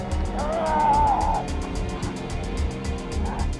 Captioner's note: Frank growling; Dodds growling; dramatic music